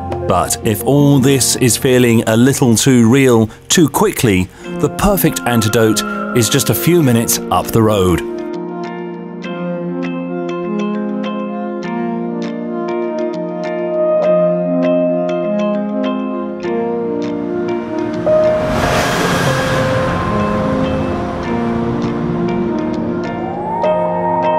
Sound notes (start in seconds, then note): 9.4 serene music; 18.1 van zooming